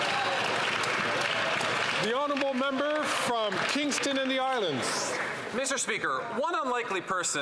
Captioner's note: some Applause